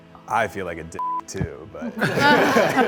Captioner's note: beep; group laughs